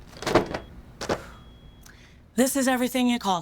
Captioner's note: books thudding